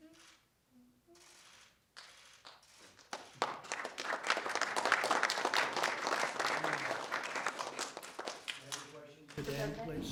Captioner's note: applause